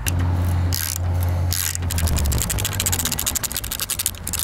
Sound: mechanical noise

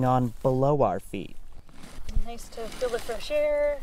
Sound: augering sounds

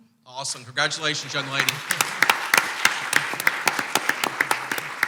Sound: clapping

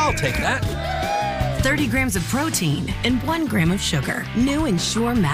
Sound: cheers

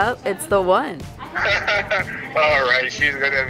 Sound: man over phone laughs

